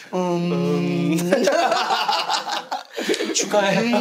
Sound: laughing

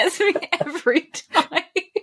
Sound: laughing

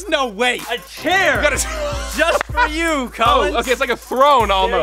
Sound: laughs

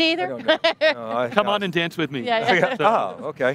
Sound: laughs

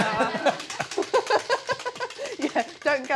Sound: wheel clacking

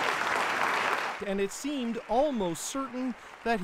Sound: applause

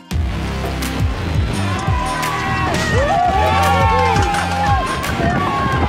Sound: dramatic music; crowd cheering

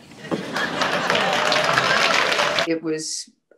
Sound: audience laughing; audience applauding

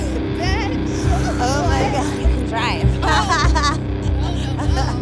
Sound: laughs

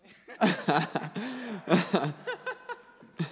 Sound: laughing

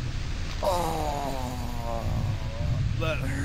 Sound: groaning

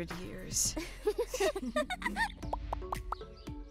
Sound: laughing; upbeat music

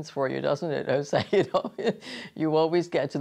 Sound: laughs

